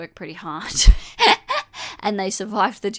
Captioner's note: laughs